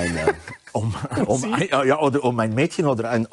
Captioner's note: laughing